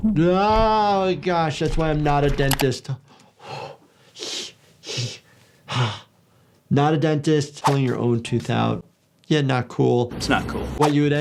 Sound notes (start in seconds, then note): 4.9 breathing